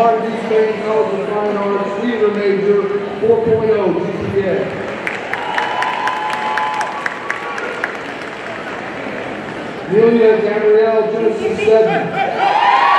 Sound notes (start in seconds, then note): 4.9 audience cheering and applauding